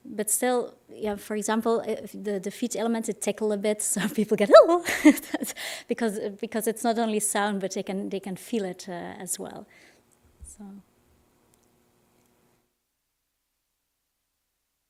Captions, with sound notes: But still, for example, the feet element, it tickle a bit, so people get, oh, (laughs) because it's not only sound but they can feel it, as well.